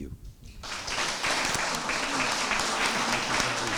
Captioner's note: applause